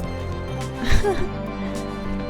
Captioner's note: laughs